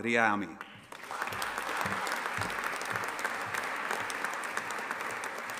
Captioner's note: audience applauding